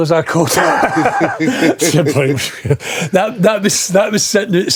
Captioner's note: laughing